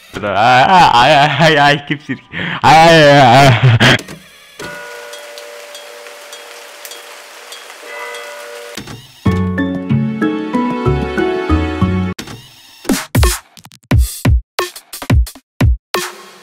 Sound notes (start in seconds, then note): 0.2 silly voice; 4.6 gentle rain, church bell in the distance